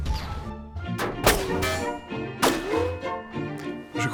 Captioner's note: multiple gunshots